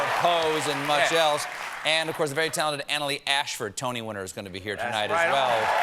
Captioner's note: cheers and applause